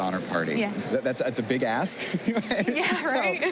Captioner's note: laughs